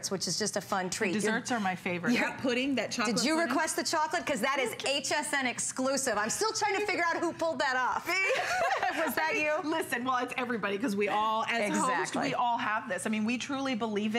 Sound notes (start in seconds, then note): 8.0 laughter